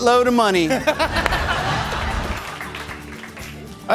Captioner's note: laughter